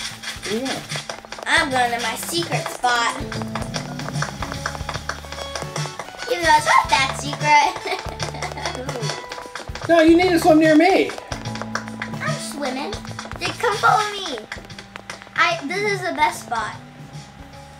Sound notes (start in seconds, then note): 7.9 laughing